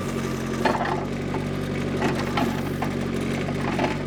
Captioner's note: metal clanks